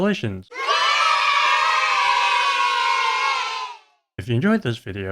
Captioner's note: kids cheering